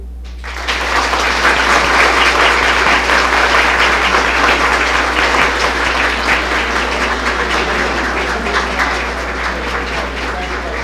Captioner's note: applause